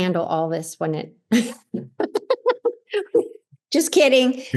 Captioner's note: laughs